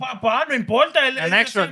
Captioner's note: non-english Speech